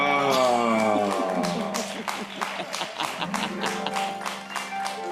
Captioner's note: harp music; audience applauding; laughing; harp music